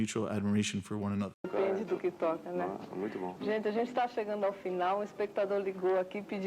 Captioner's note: panelists speaking in Spanish